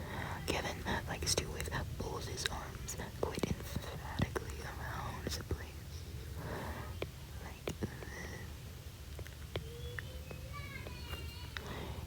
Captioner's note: child screaming